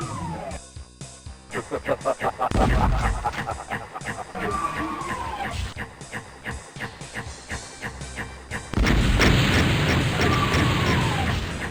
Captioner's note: evil laugh